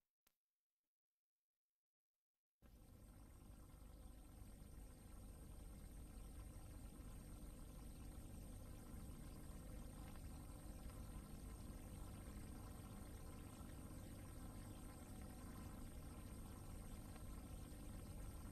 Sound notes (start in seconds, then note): 0.1 silence; 3.0 VHS static